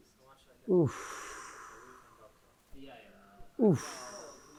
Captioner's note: sighs